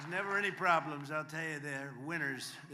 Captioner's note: applause